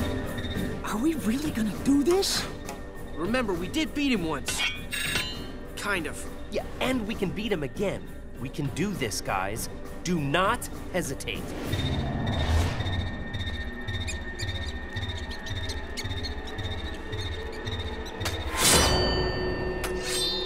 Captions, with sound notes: Are we really going to do this? Remember, we did beat him once. Kind of. Yeah, and we can beat him again. We can do this, guys. Do not hesitate. [squeaking]